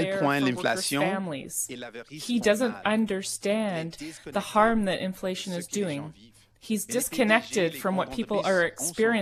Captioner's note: speaking French